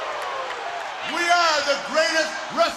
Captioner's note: crowd cheering